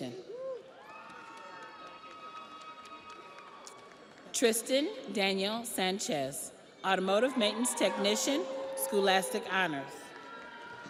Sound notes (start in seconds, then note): 3.2 audience applauds; 3.2 audience cheers